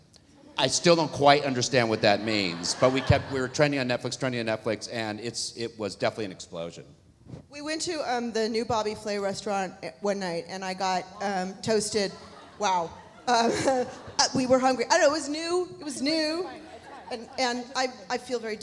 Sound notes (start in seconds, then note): 12.0 laughs